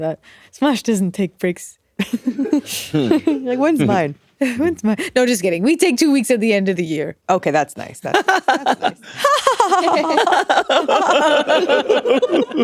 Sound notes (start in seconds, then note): 2.1 all giggling; 8.1 all laughing